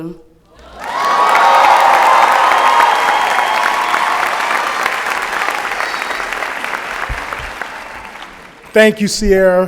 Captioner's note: applause and Cheering